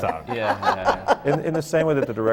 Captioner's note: laugh